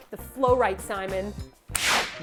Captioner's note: slap